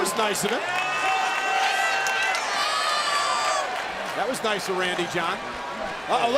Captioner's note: applause